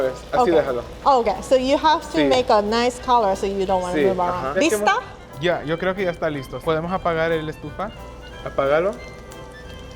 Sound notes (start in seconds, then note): 4.7 speaking Spanish